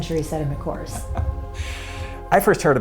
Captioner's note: laughing